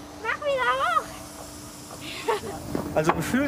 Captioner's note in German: Sie lacht zufrieden